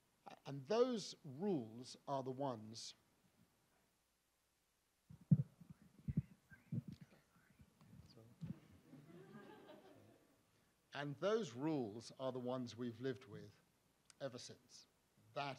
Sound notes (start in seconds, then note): 8.9 audience laughs